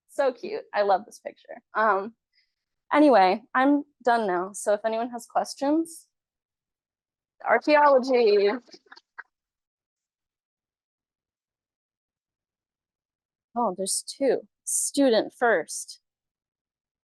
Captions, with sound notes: So cute. I love this picture. Anyway, I'm done now. So if anyone has questions, archeology. (class claps) Oh there's two. Student first.